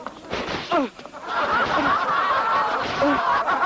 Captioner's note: crowd laughing